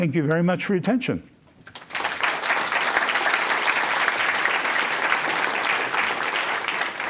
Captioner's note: applause